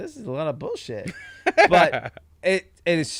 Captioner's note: laughing